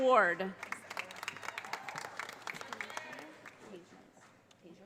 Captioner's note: audience applauding